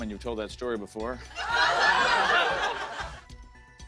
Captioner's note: laughter